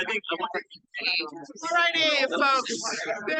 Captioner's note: background chattering continues